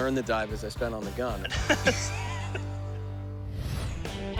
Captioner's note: laughter